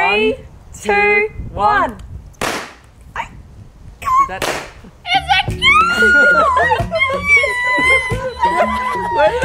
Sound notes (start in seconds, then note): 2.4 pops; 5.6 cheering